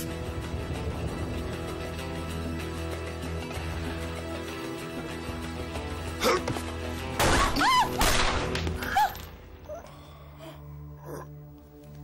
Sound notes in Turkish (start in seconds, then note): 0.0 geri̇li̇m müzi̇ği̇ çaliyor; 8.0 si̇lah sesi̇